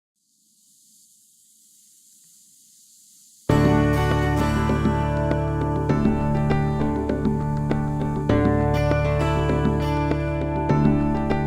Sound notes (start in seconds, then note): 0.2 sand whooshing; 3.5 uplifting music